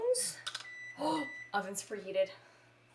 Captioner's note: beeps